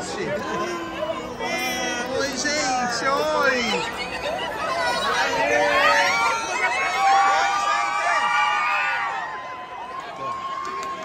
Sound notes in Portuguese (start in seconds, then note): 3.8 mulher grita; 5.8 gritos